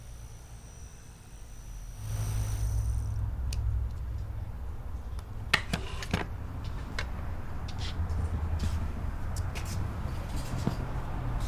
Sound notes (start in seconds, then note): 1.7 fan whirring; 7.7 feet shuffling